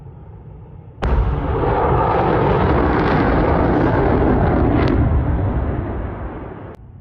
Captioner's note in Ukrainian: звук запуску ракети